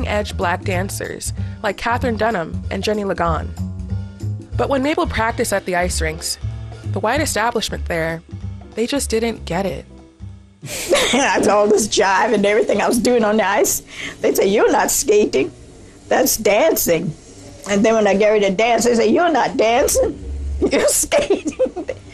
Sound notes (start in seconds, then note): 10.4 soundbite of archived recording; 10.6 laughter; 20.6 laughter